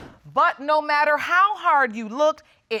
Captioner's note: none